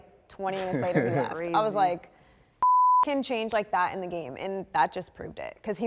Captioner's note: beep